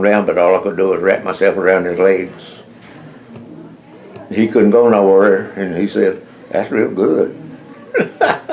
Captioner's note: laughs